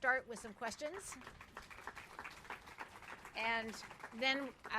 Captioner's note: applause